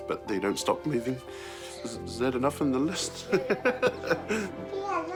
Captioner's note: chuckles